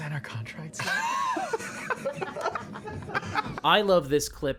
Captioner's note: laughter